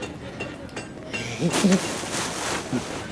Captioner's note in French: gémissements